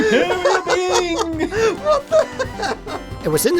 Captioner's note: chuckles